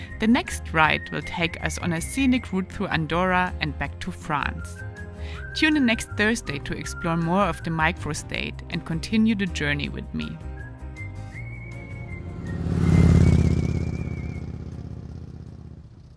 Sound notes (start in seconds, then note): 10.9 bike roaring; 11.2 lively music